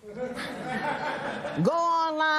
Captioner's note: laughter